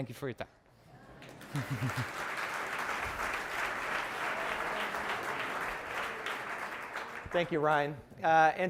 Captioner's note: applause